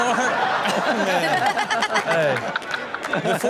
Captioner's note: Chanel laughs